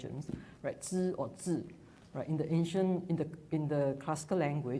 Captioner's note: speaks in foreign language